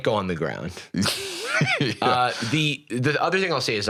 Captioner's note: laughs